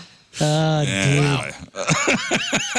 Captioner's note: laughing